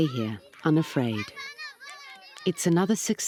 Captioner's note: children calling